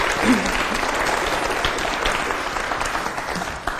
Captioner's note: applause